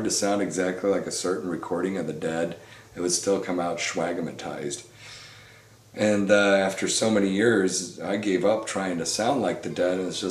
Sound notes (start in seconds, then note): none